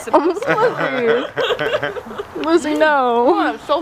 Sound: laughter

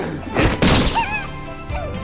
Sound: wince

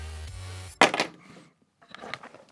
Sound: sound of fidget spinner hitting the table

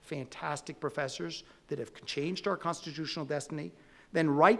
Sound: none

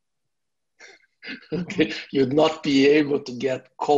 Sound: laughs

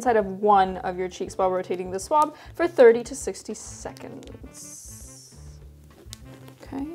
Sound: wrapper opens

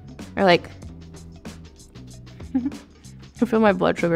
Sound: Madelyn giggling

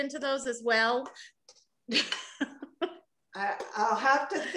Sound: laughter

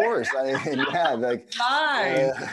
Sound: group laughing

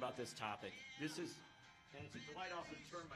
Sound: cell phone rings

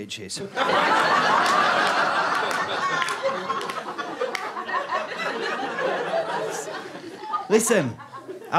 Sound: audience laughter

